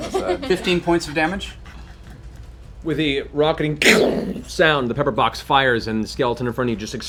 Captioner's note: blast